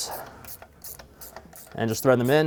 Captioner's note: socket wrench squeaking